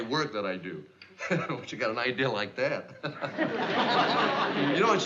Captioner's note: chuckles